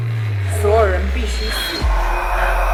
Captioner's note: Mandarin language; demonic breath